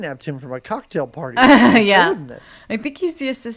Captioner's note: laughs